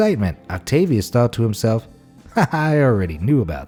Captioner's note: laughs